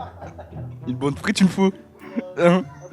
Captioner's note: said in Belgian accent